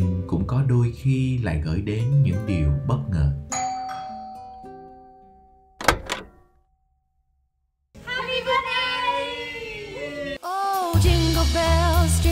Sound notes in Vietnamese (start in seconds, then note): 3.5 Tiếng chuông; 8.3 Tiếng hò reo